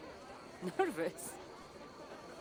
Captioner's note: laughing